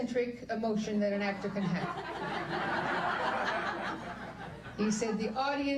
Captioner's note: guests laughing